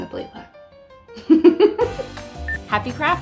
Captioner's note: laughing